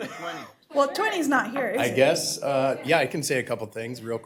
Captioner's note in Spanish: risas